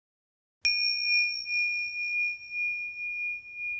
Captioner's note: bell dinging